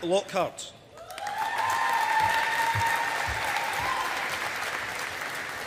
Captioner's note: audience applauding